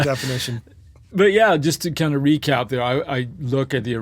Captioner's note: laughs